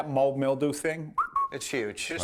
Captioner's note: whistles